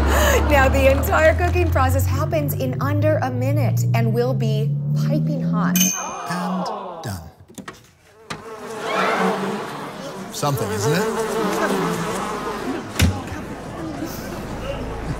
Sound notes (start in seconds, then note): 5.7 ding; 8.0 flies buzz; 8.8 audience gasps